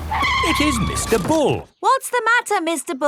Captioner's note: tires screeching